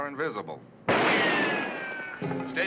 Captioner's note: gun firing